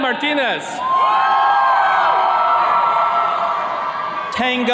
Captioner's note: attendees cheering